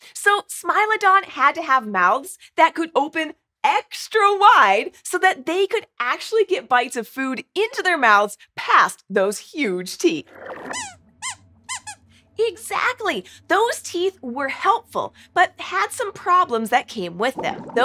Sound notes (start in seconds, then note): 10.4 squeaks squeaks